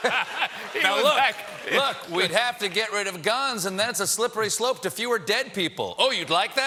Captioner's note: laughter